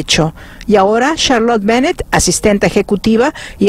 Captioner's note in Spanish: habla en ingés